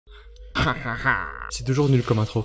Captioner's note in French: bruits de pirate pas crédibles